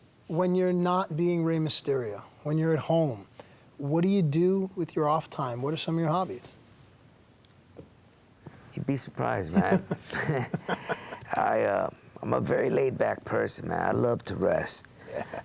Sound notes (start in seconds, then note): 9.6 laugh